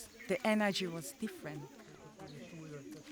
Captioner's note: girls chattering